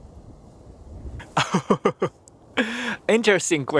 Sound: laughs

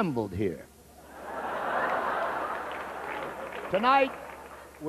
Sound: laughter

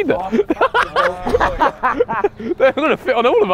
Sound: men laughing

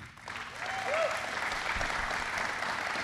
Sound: applause

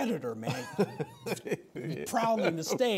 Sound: laughs

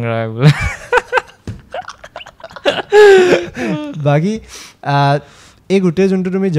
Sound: laughs

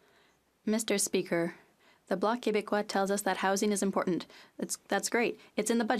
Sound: speaking French

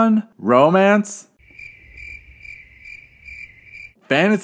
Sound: crickets

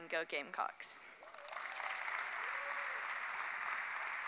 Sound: applause

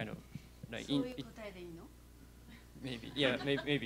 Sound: non-english speech

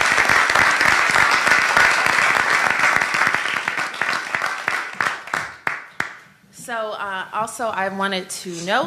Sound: applause

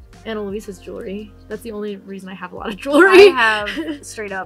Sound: laughs

